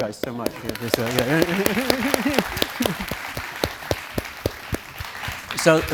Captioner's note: audience Applauding